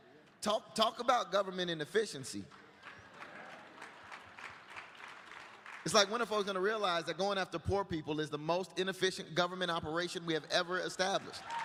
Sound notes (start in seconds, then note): 2.4 applause; 11.2 applause